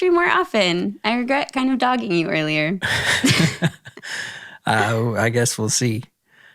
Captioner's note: both laughing